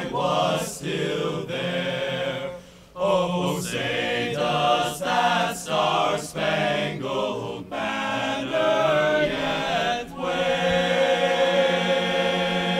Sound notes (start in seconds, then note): none